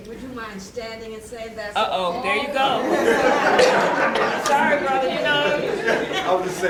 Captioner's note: laughter